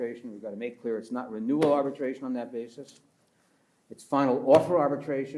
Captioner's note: pats table; pats table